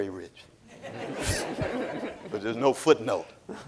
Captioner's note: audience laughing